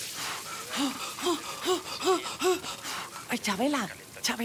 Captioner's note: heavy panting